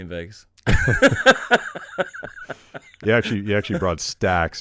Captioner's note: laughing